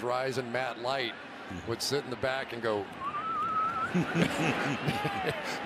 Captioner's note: whistling